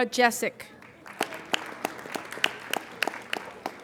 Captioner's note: applauding